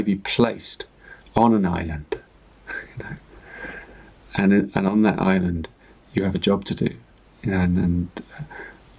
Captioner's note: chuckles